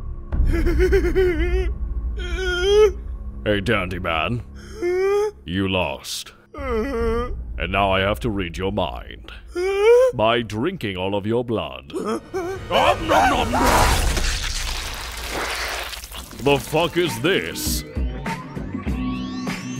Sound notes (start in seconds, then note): 0.3 whimpering; 13.0 whimper screaming; 16.3 psychedelic music